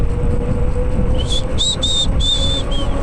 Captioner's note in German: Pfeif